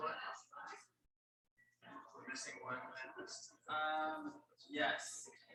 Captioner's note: people chattering indistinctly